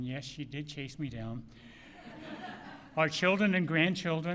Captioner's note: laughter